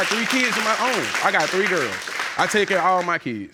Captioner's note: audience applauding